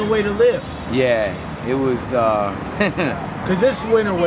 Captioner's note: chuckles